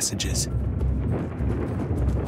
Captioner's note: thunder rumbling